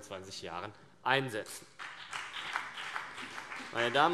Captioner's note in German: Beifall BÜNDNIS 90/DIE GRÜNEN und vereinzelt CDU